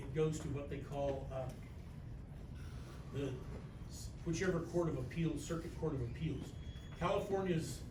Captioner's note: stammers